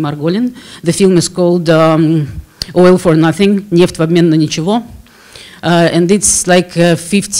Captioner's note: russian speech